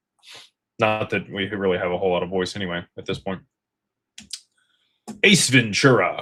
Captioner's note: snorts